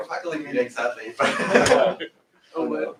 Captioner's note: laughter